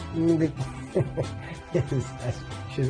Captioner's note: laughs